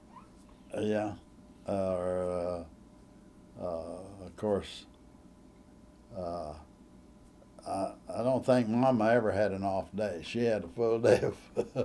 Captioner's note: laughs